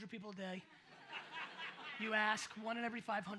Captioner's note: audience laughs